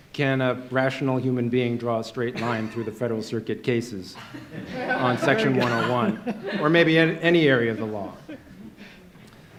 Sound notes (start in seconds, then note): 4.2 laugher